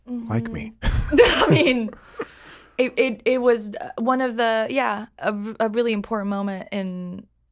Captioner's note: laughs